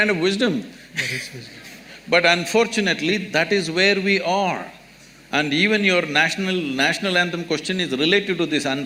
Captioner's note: laughs